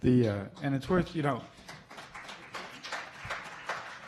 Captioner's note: applauding